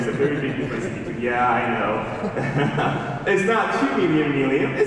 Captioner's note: laughing